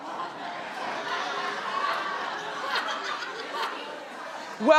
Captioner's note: audience laughing